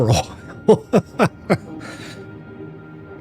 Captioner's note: laughs